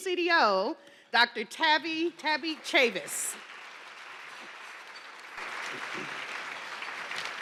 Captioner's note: attendees cheering